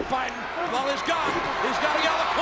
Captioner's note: audience cheers